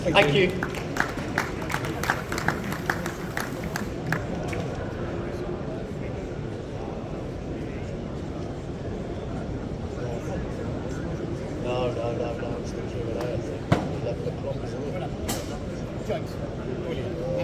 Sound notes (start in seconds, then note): 2.4 audience applauding; 11.9 people chattering